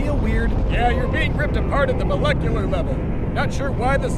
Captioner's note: yelling over chanting and wind